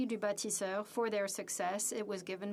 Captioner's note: speaking French